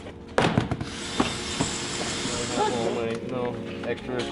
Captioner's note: metal clangs